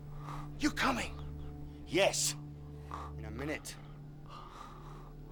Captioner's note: strangled Gasping